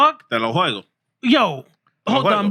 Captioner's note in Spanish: Hablando en idioma extranjero